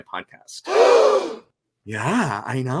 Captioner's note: audience gasping